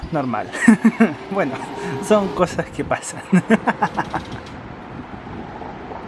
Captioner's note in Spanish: risas